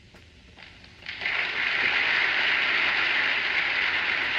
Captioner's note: clapping